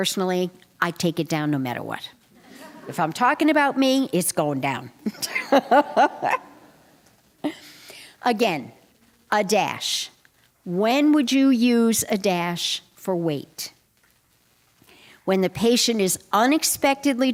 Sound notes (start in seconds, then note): 5.1 laughter